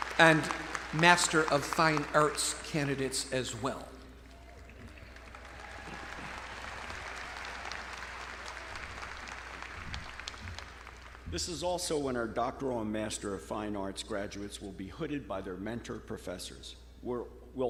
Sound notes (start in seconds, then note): 4.2 audience cheering; 5.7 audience clapping